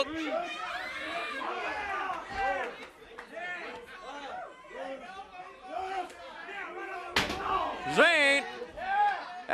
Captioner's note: crowd chatter